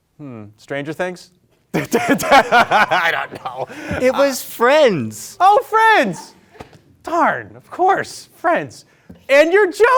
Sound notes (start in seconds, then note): 1.7 host laughing